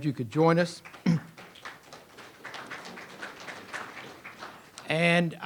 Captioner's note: audience applauds